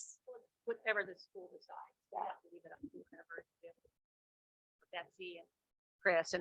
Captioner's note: microphone volume fades